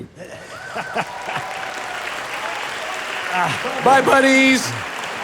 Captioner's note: audience applauding